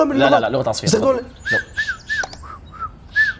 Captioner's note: whistles